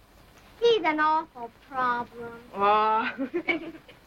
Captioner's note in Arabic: يضحك